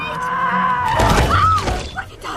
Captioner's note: crashing noises